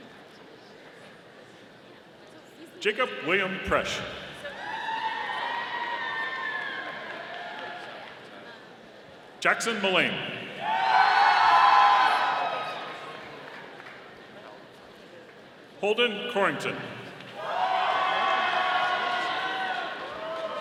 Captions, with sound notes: Jacob Wiliam Presch. (audience cheering) Jackson Mullane. (audience cheering) Holden Courington. (audience cheering)